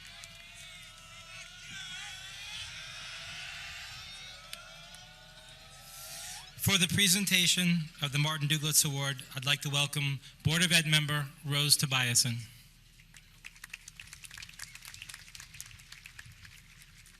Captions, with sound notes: (audience cheering) - For the presentation of the Martin Dlugatz Award I'd like to welcome Board of Ed member, Rose Tobiassen.